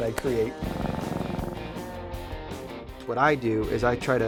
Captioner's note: cat purring